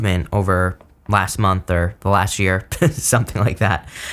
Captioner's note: chuckles